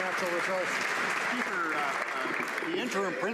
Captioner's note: some Applause